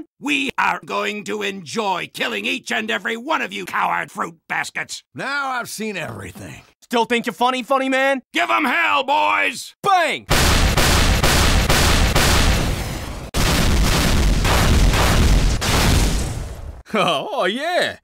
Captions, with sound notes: We are going to enjoy killing each and every one of you coward fruit baskets! Now I've seen everything... Still think you're funny, funny man? Give 'em hell boys! Bang! [rocket launcher shooting sounds] [explosion sounds] Hehe, oh yeah